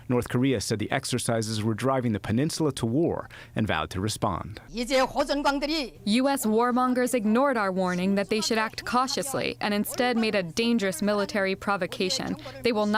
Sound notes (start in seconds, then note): 5.5 through translator